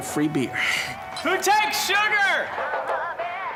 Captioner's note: laughs; shouting